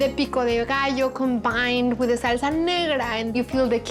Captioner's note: none